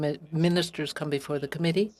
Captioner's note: speaking French